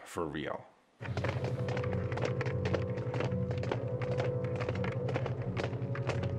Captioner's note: footsteps plodding; tense suspenseful music